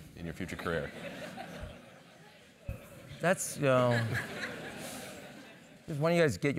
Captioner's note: laugh